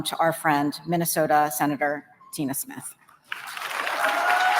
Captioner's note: applause